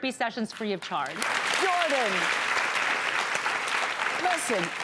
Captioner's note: applause